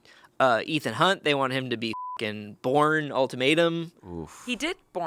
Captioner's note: beep